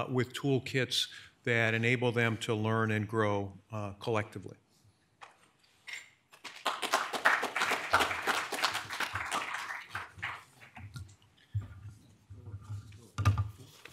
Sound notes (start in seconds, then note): 6.4 audience applauding; 13.0 speaks faintly